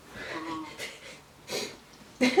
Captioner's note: laughing